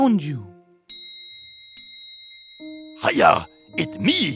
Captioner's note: dinging